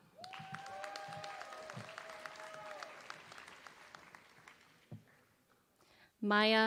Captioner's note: applause